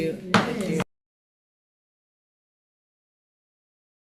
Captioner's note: gavel bangs